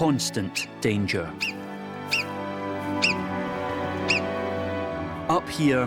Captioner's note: marmot calls